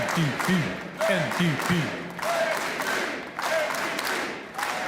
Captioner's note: chanting